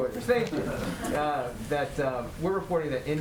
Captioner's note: laughter